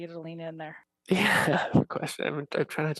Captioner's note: laughs